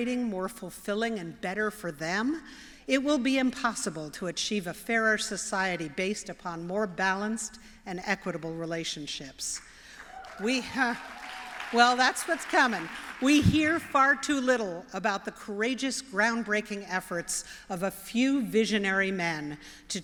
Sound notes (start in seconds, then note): 9.6 applause